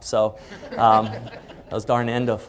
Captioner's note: laughing